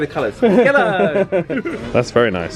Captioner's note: laughing